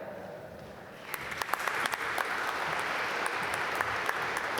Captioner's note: applause